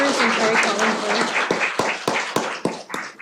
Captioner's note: applause